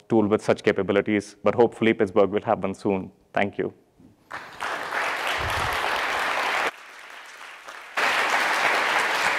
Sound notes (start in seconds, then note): 4.3 audience applauds